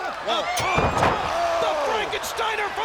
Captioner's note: fighters grunting; bodies thudding